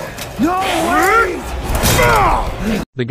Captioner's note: punches hammer on ground